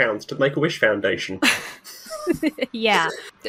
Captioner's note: chuckle